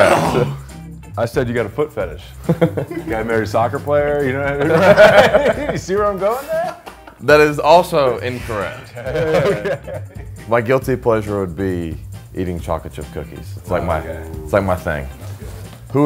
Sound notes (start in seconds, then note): 2.4 man laughing; 4.9 men laughing; 8.8 man laughing